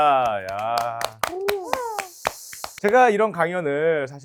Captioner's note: cheering